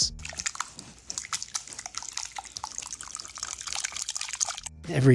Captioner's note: liquid gurgles